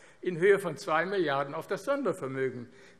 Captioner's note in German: none